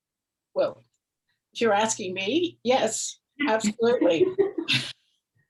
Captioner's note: laughs